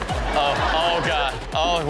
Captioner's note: audience laughing